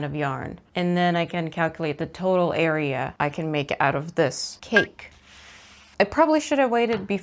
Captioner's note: sproingy noise